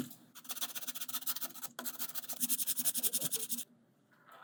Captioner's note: sanding